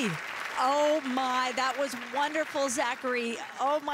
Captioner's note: applause